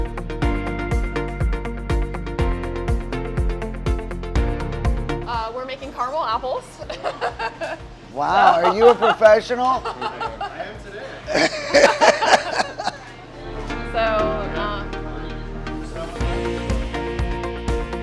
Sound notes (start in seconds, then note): 11.5 laugh; 15.2 bright music